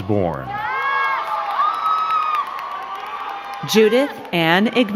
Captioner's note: crowd cheering and clapping